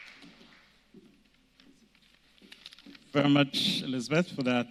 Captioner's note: applause